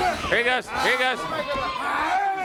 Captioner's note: crowd chatter